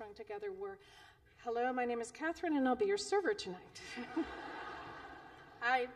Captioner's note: laughter